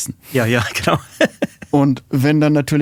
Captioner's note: lacht